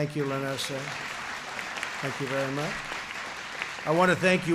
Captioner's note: applause